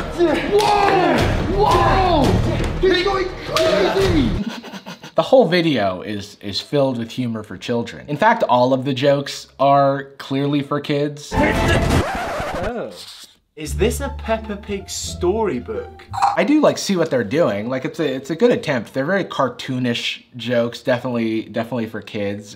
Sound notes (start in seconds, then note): 4.4 holding back laughter; 11.4 record Scratch.mp3